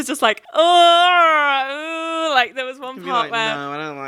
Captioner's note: groaning